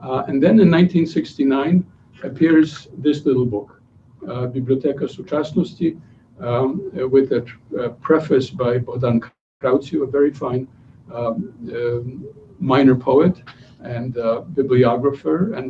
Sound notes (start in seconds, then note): 4.5 non-english speech